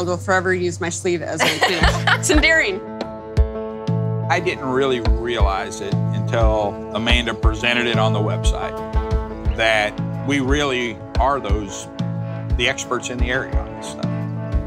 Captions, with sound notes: will forever use my sleeve as a Kleenex. (laughs) It's endearing. - I didn't really realize it, until Amanda presented it on the website, that we really are the experts in the area on this stuff.